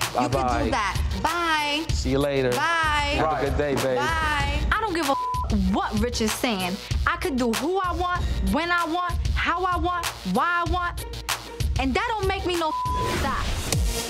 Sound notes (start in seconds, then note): 4.9 beep; 12.5 beep